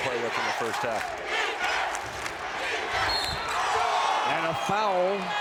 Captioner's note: crowd chants; whistle blows